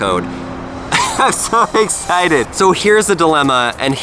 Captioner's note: laughing